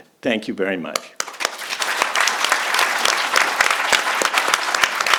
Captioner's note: audience claps